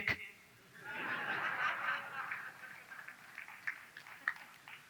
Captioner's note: audience laughs